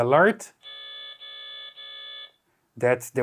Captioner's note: alarm beeping